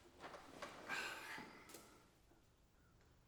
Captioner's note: sigh